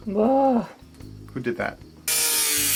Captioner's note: camerawoman groans; high-pitched whirring